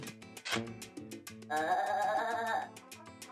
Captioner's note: snickering